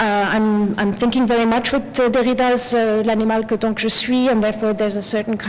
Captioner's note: french